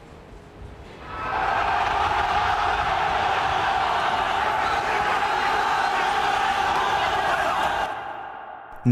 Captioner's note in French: hurle